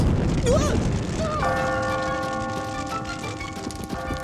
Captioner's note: bell tolls